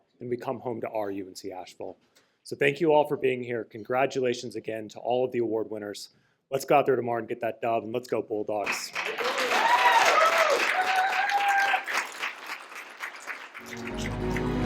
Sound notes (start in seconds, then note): 8.7 cheers and applause; 13.6 closing music